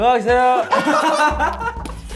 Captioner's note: laughing